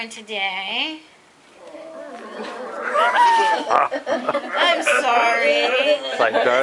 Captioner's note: collective moan from class